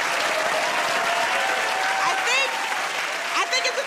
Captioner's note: cheers and applause